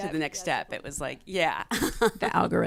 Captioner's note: laughs